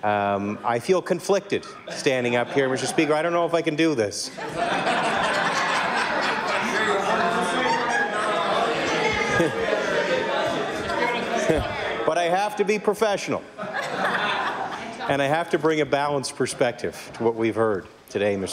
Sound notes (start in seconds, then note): 4.2 laughter